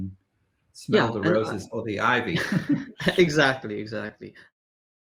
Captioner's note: laughs